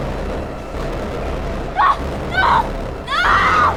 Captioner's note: Ashley screaming